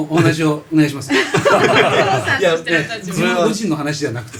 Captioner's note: laughs